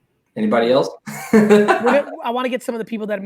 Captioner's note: laughs